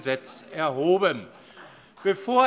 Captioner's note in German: Beifall bei der CDU